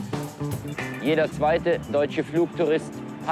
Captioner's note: male reporter speaking German over the TV